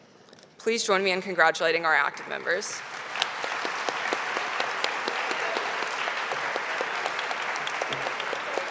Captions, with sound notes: Please join me in congratulating our active members. (audience applauding)